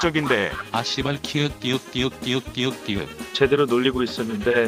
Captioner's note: laugh of relief